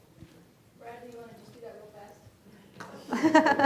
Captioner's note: laughter